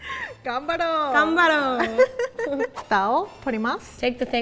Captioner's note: speaking in Japanese